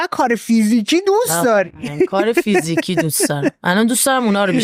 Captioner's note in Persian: خنده